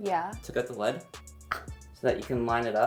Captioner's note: clicks tongue